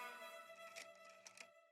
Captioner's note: camera snapping